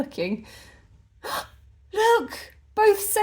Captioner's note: gasp